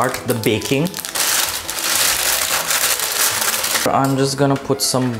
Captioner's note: paper rustling